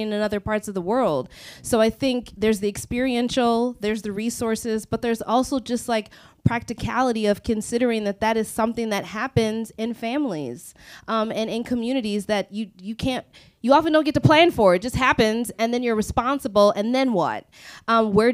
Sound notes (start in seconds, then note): none